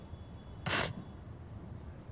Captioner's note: sniffles